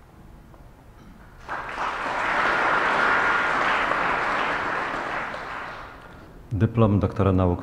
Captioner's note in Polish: oklaski